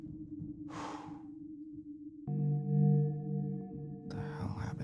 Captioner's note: Kenny sighs